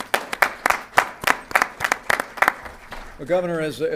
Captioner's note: applause